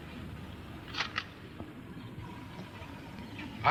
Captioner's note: camera shutter clicks